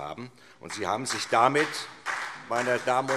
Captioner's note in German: Beifall SPD